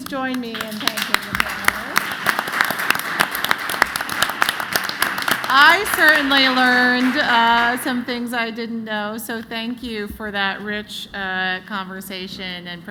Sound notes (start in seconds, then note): 5.3 applause